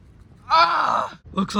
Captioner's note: screams